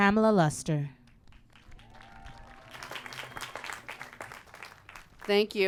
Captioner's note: applause